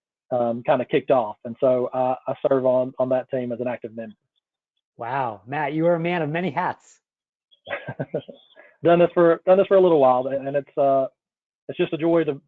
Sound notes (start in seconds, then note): 7.6 laughs